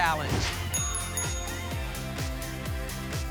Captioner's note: whoosh; ding, ding, ding